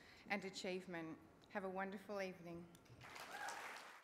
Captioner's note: cheering and applause